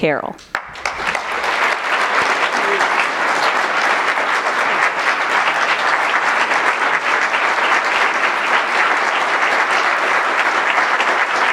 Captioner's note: applause